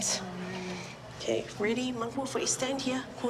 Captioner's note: speaks samoan